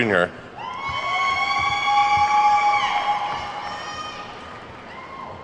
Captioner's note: attendees whooping